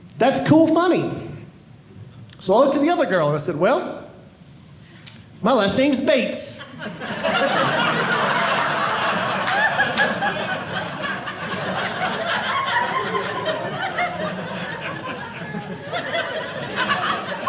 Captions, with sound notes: That's cool funny. So I looked at the other girl, and I said, well, my last name is Bates. (audience laughing)